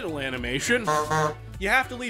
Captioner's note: honk honk